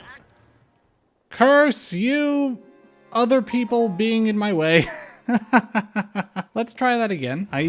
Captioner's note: laughter